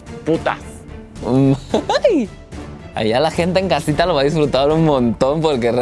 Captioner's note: giggle